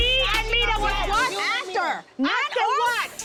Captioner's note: people shouting indistinct